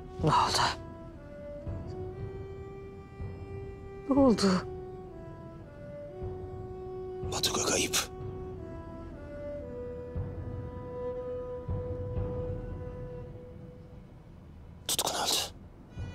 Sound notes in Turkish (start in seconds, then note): none